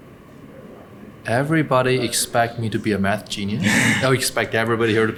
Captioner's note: laughs